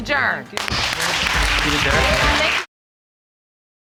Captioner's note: audience applauding